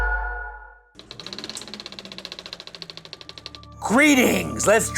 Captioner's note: instrumental music; film projector whirring